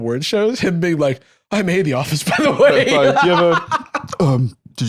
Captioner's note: laughs